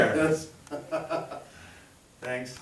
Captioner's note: chuckles